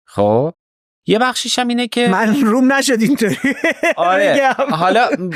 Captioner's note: laughs